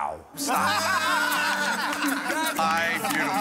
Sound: laughter

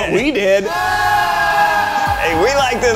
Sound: cheer

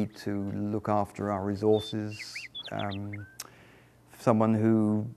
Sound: birds Chirping Sounds

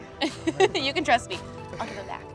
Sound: laughs

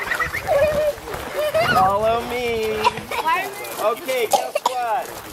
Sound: kids laughing

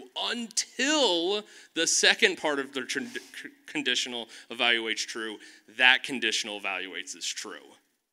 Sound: none

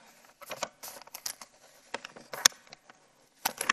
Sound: paper rustling

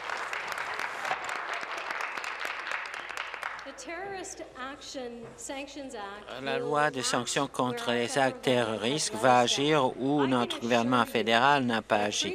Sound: applause

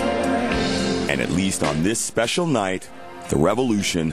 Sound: voiceover

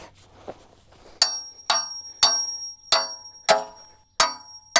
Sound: hammer clanging

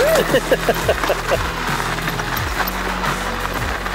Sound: laughs

